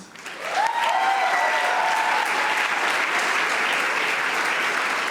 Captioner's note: audience applauding